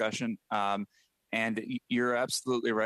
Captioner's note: speaking French